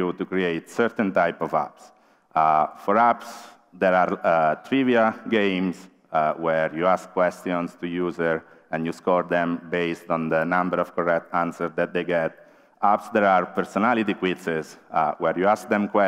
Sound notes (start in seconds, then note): none